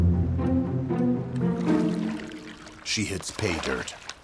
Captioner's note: light music; water trickling